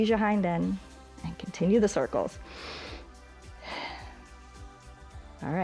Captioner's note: inhales and exhales